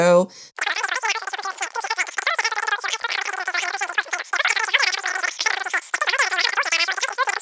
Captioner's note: more cartoon gibberish sounds